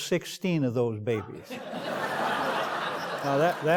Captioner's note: laughter